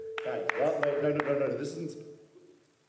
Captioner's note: someone starts clapping